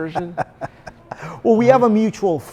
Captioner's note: laughs